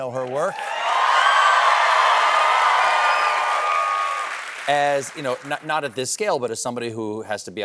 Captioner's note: cheers and applause